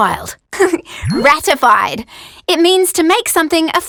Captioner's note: laughs